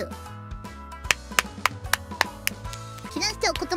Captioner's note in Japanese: 拍手